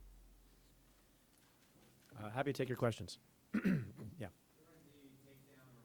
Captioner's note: clears throat